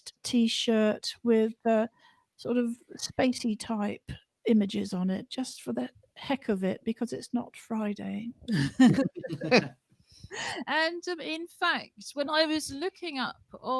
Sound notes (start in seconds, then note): 8.5 laughter